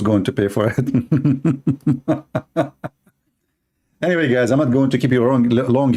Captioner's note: Ketawa